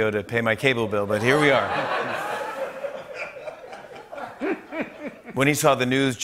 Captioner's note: laughter